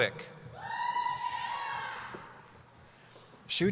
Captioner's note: cheering